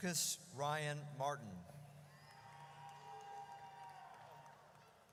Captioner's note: audience cheers